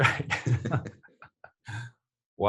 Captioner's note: laugh